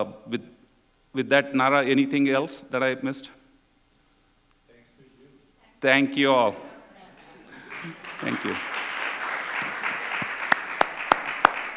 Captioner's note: applause